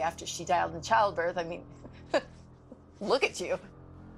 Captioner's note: laughs